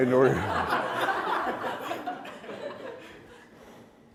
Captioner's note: laughter